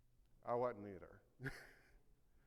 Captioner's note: laughs